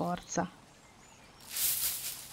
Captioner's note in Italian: Rumore tra i cespugli